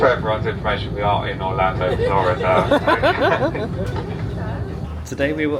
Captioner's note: crowd laughing